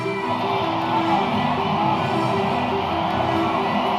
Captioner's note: cheering